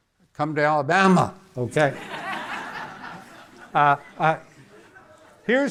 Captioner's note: audience laughing